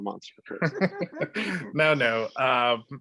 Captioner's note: all laughing